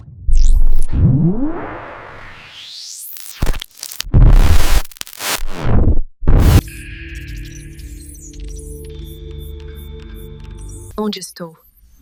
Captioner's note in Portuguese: ruído eletrônico